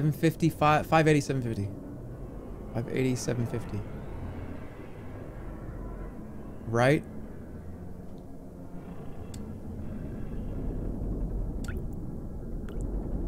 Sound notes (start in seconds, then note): 9.2 machine whirring